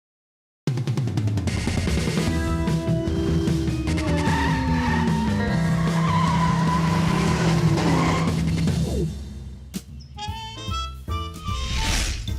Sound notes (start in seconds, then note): 3.6 tires squealing; 11.5 whooshing